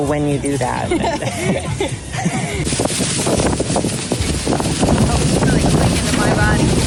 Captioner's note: laughter